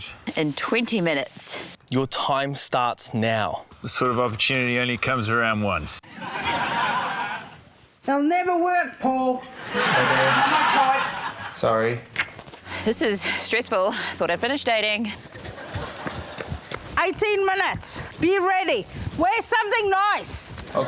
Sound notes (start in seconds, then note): 6.1 laughter